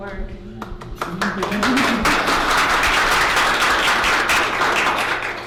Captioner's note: applauses